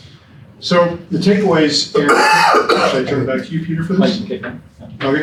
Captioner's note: coughing